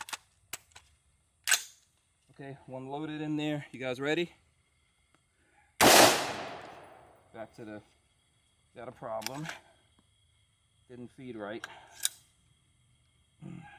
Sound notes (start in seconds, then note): 0.2 clicking; 5.8 firing; 12.6 clicking